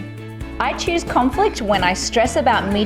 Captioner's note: objects banging